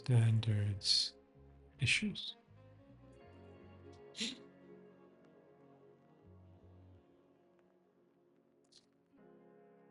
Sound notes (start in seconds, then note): 0.5 soft music; 4.2 sniffling; 6.0 soft music